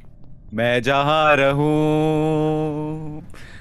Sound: in a musical tone

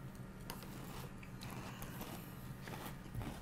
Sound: crunching

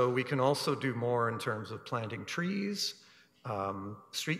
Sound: none

